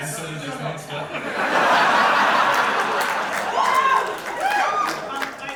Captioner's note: audience laughter